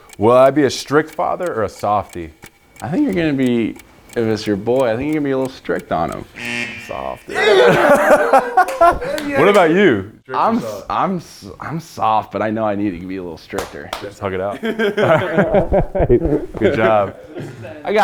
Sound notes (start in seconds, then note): 6.8 buzzer buzzing; 9.3 both laughing